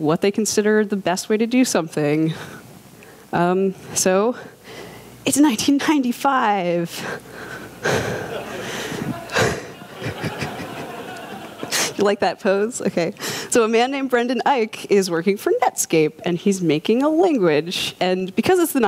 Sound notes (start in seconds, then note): 5.4 laughter